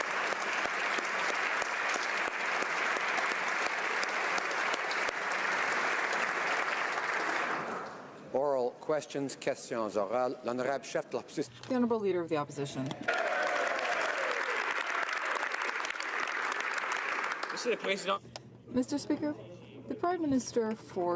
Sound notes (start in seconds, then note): 0.0 applause; 12.4 speaking French; 16.4 some Applause